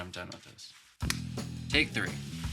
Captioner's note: hand clap